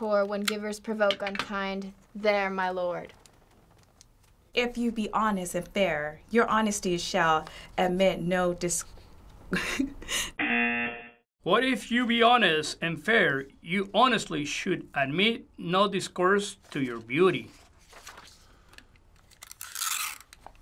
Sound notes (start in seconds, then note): 9.3 laughs; 10.4 buzzer